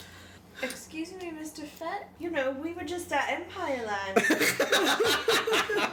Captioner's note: assorted laughter